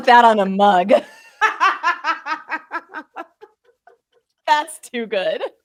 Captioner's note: both laughing